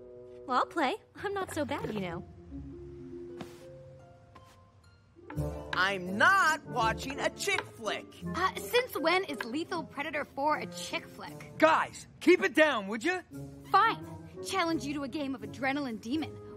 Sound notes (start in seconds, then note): none